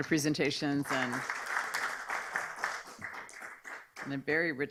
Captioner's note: audience appaluds